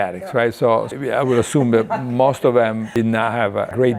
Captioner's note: laughing